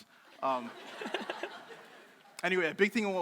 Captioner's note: crowd laughing